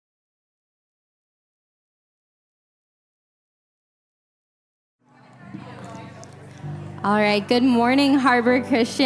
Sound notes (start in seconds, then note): 5.0 audience chattering